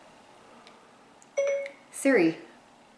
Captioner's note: ding